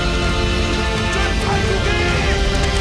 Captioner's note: soldiers yelling